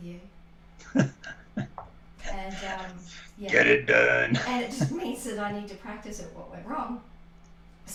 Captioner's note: laughter